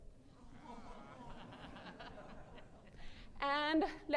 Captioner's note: audience groans and laughs